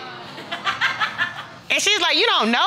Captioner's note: woman laughing